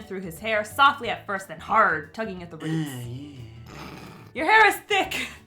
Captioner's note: chuckles